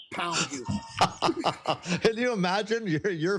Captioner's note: laughter